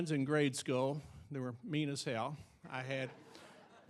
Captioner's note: audience chuckling